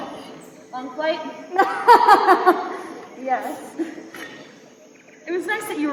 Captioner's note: chuckles